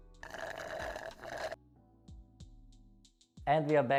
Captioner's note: slurping